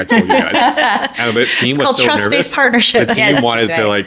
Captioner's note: laughing